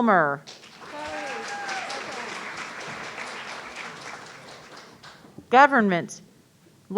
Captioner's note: audience cheering